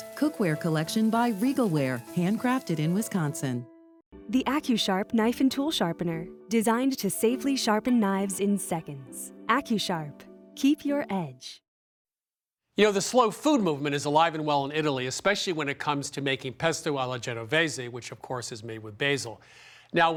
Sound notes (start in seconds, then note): none